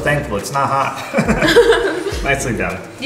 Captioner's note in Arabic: كلاهما يضحك